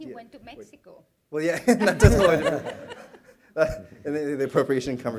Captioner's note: laughter